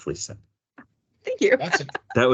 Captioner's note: laughing